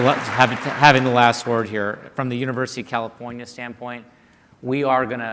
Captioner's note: applause